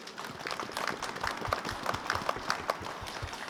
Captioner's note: applause